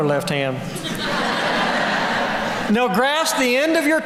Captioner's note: laughter